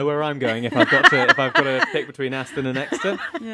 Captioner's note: both laugh